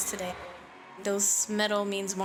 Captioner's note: cheering